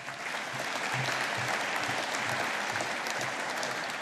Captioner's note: audience applauding